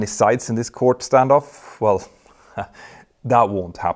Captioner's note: chuckles